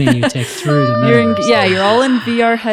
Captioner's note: laughing